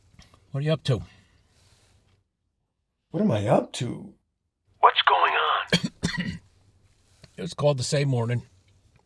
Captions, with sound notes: - What are ya up to? - What am I up to...? What's going on? (COUGHING) - Just called to say mornin'.